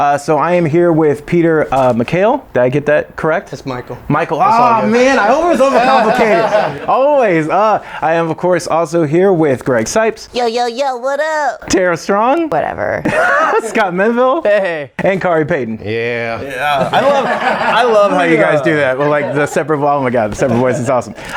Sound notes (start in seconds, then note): 6.5 group laughing; 16.4 group laughing